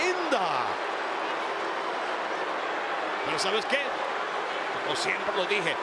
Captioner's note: applause